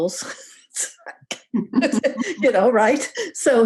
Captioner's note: both laughing